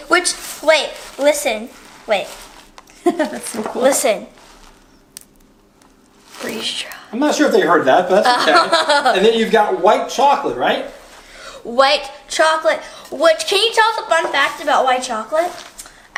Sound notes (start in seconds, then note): 3.0 laughing; 5.1 quiet snap; 6.2 whispers; 8.2 girl laughing